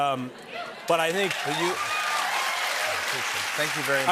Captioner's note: cheers and applause